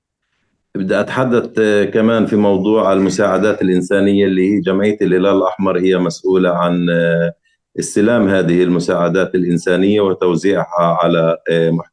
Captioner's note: speaking arabic